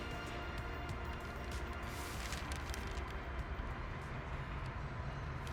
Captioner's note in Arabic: صوت القطار